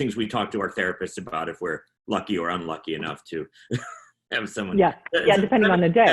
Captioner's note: chuckles